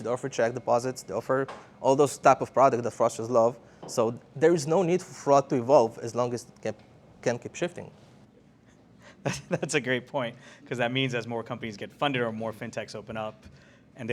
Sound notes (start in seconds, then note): 9.2 laughs